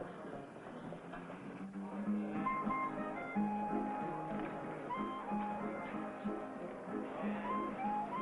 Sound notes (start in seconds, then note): 1.2 lively music playing; 4.2 people chattering